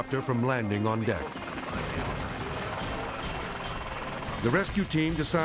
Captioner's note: helicopter buzzing; radio muffling